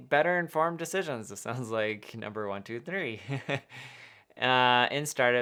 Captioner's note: chuckling